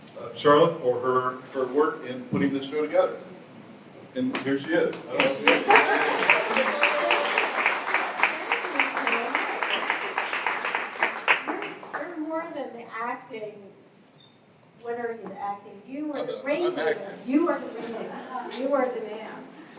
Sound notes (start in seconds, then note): 5.2 applause and laughter